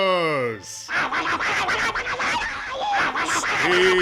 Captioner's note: indistinct shrieking